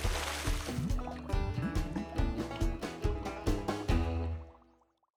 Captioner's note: fish splashes; upbeat music continues